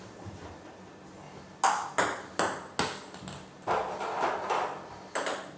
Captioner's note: balls ping pong hitting continues